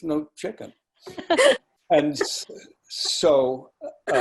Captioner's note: laughing